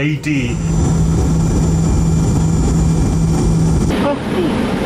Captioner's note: plane engine buzz